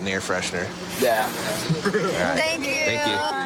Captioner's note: laughs